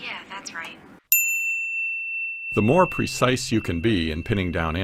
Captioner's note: positive ding